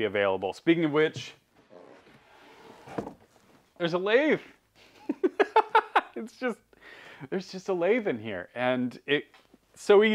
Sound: laughing

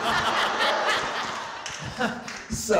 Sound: audience laughing

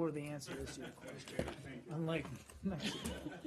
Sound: laughter

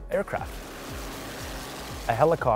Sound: helicopter sound

